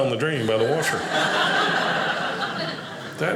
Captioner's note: audience laughing